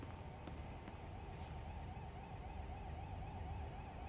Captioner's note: distant alarm sound